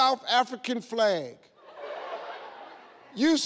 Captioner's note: audience laughs